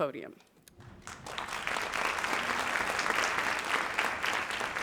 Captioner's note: audience applauds